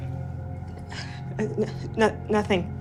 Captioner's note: Samantha stuttering